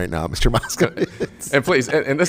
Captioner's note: laughs